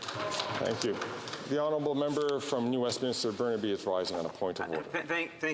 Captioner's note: off mic